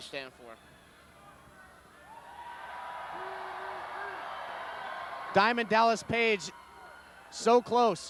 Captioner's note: applause